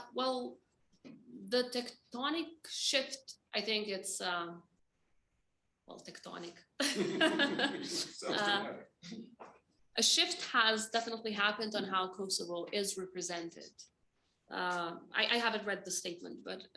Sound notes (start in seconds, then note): 6.8 Vjosa chuckles; 6.8 Vjosa laughs; 6.8 laughs